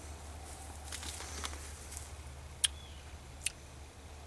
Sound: juicy bite and chewing

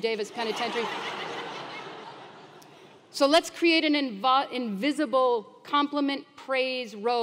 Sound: laugh

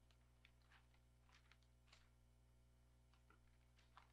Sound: paper rustling

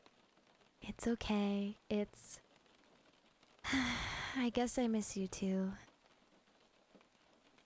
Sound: sigh

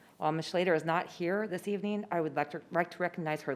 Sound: none

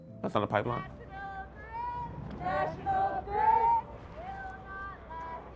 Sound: protesters chanting

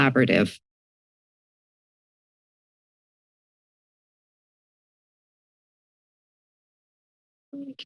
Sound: silence

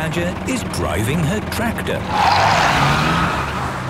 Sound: tires screeching

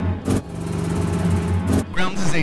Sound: helicopter whirring

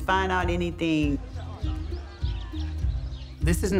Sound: birds chirping

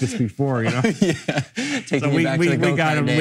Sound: laughing

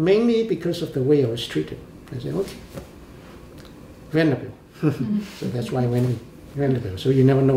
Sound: laughs

